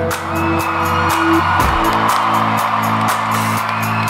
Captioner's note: cheers